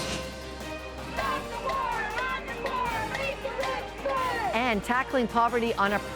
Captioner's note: chanting